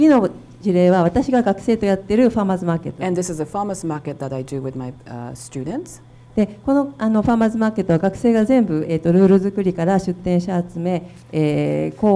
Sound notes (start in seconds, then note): 0.1 speaking foreign language; 6.6 speaking foreign language